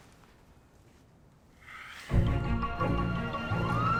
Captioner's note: sighs; siren wailing